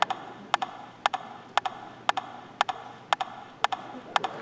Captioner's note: rhythmic tapping